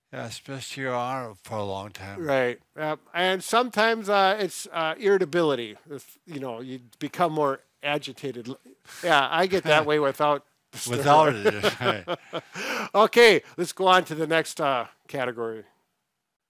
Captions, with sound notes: - Yeah, especially you're on it for a long time. - Right. And sometimes it's irritability if, you know, you become more agitated. Yeah, I get that way without- - Without it. (both chuckle) - Okay, let's go on to the next category.